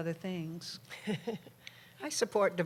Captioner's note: laughter